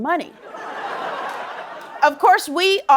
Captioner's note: laughter